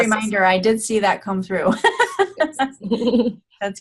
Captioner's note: laughing